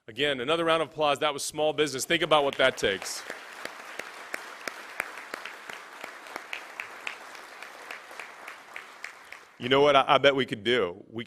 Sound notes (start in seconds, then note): 2.2 applause